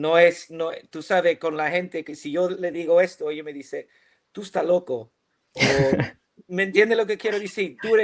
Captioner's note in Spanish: risas